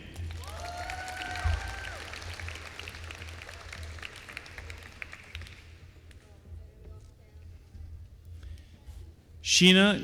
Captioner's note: applause